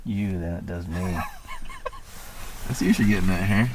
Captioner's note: laughing